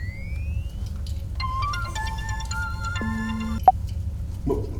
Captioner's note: phone ringing